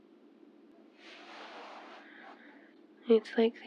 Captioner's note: shuffling in bed